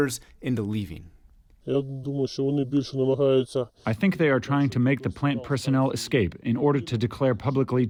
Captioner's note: through translator